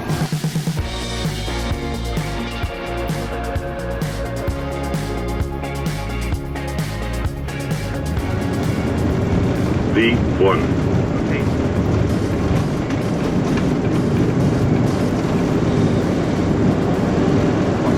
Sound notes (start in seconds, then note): 0.3 upbeat electronic music; 12.2 plane engine roaring